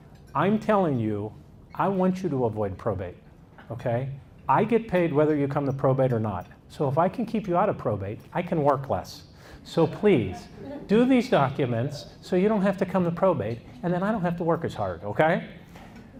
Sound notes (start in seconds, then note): 9.4 audience laughs